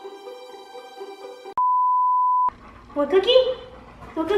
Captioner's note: beep